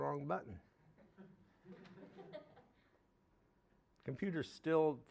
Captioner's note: audience chuckling